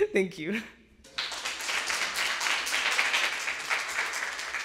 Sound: audience applauding

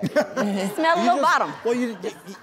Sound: audience laughing

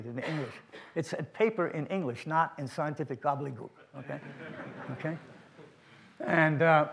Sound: laughter from audience

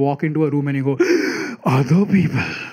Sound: gasp

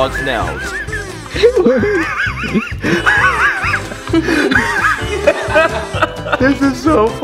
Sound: laughter

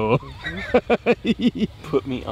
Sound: laughing

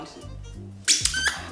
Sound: squeaks

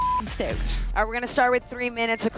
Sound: beep

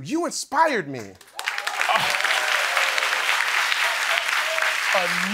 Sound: applause

